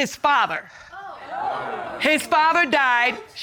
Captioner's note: audience exclaims